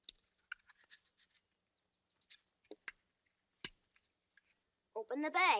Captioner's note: none